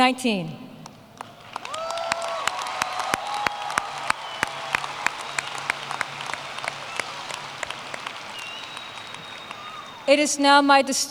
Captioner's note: applause